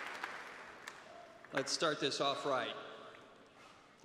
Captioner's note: cheers and applause